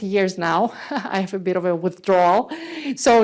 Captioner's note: laughs